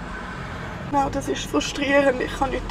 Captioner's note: in Swiss German